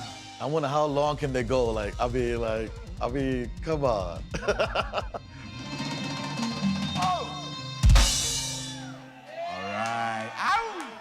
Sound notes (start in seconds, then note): 4.3 laughter